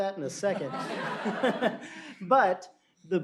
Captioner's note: laughter